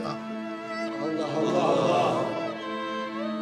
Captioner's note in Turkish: Hep bir ağızdan